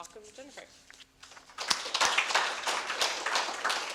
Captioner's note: applause